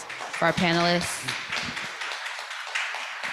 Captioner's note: applause